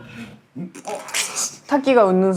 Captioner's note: laughs